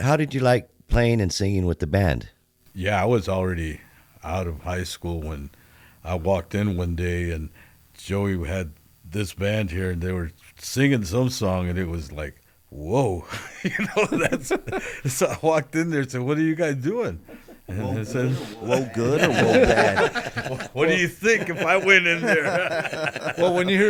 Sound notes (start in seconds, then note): 13.3 laughter; 20.3 laughter; 23.0 laughter